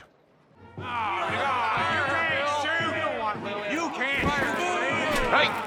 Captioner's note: crowd clamoring